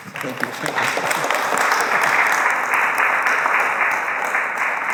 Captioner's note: attendees clapping